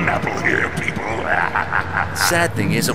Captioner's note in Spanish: Se Ríe